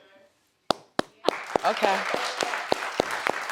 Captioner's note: applauds; audience applauds